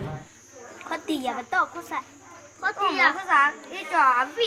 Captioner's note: foreign language